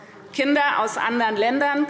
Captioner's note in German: none